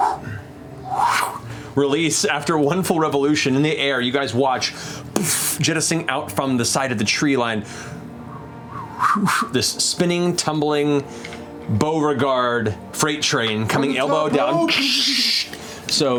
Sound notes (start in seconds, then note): 0.0 wind noises; 8.6 rushing wind